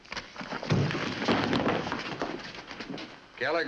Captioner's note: thump and scuffling